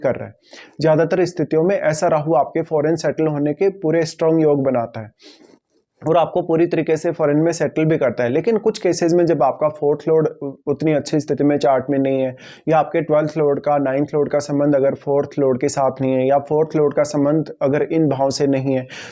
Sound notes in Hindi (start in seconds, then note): 5.2 नाक से की जाने वाली आवाज़